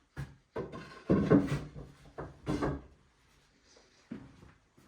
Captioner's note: wood thuds